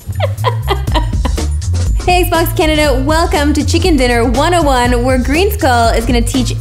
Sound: laughing

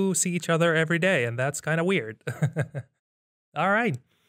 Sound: laughs

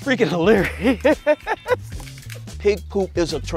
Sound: laughs

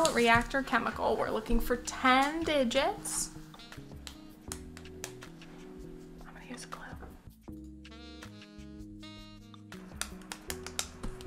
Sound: whispers

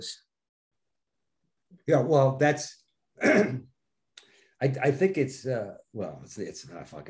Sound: clearing throat

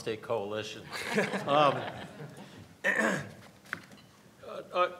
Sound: everyone laughs

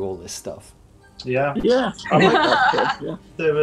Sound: agreements and laughing

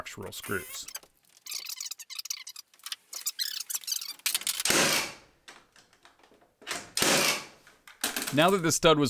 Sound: nail gun being used; sped up sounds

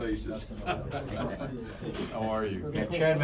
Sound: laughter

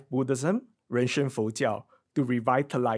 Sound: speaks in foreign language

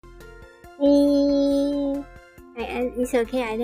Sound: thinking sound

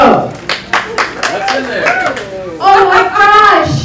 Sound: voice from crowd

